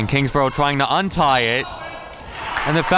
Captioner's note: referee blows whistle; crowd clapping